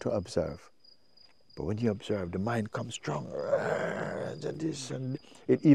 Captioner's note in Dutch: kreunt